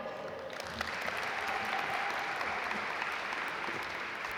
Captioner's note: audience applaud